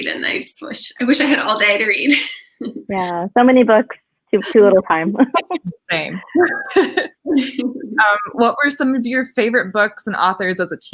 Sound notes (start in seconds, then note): 5.1 giggles